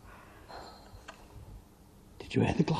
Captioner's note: glasses chime